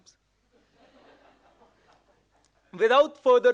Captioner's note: audience laughing